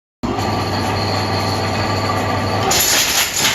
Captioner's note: machine noises